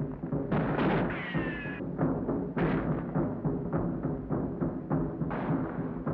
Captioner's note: drum beats; guns bang